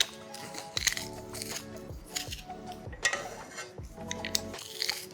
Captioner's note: garlic press crushing